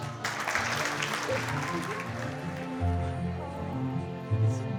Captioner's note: all applauding; heartfelt music